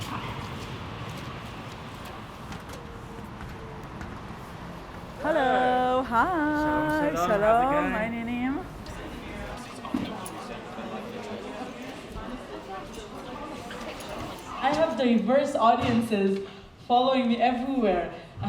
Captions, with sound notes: Hello. [crowd babbles] - I have the diverse audiences following me everywhere.